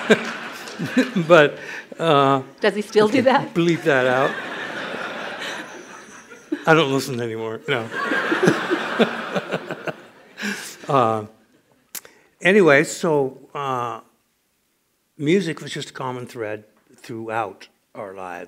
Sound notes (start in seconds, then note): 3.7 laughter; 7.7 laughs